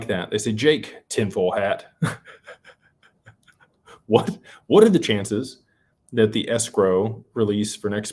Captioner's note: laughter